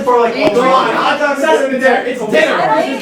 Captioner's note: arguing